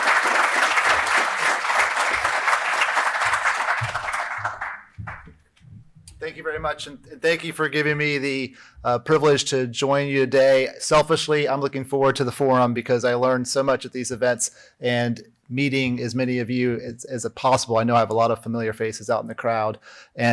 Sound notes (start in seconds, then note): 1.6 applause